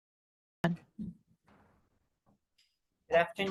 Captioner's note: gavel bangs